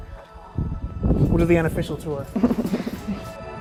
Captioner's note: woman laughs